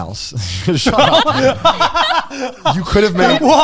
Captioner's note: all laughing